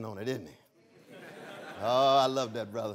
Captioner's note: laughter